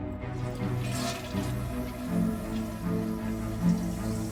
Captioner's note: flushing toilet